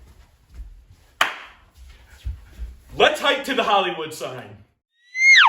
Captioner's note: clap